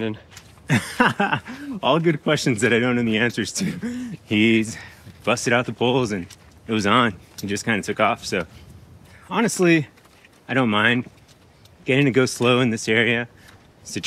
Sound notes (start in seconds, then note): 0.6 chuckles